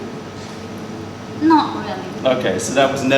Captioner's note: holds breath